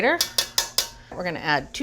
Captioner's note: rasp grater tapping